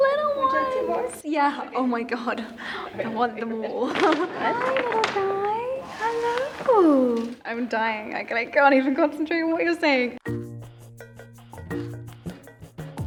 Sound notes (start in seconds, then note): 3.8 laughs; 10.1 light music